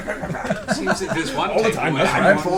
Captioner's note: all laugh